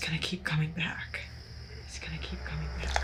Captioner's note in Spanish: insectos chirriando